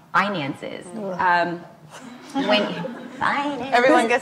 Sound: laughs

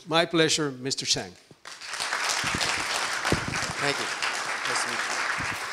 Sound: audience cheering

